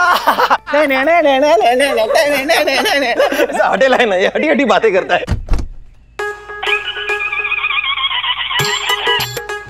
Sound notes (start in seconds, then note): 0.2 Laughing; 5.3 Door opens